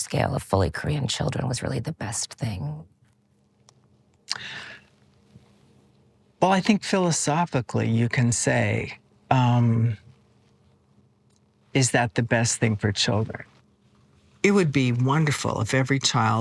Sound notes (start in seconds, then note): 4.3 inhales